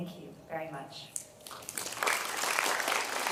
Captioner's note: applause